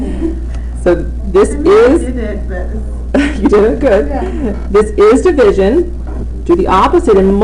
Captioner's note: laughing